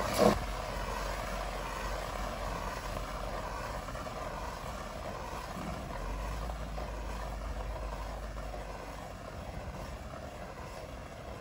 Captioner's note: fire Extinguisher Discharging